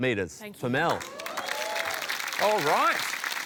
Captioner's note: cheering, applause